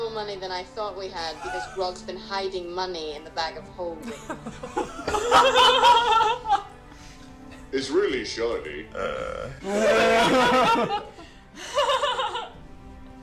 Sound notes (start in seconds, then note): 4.7 all laugh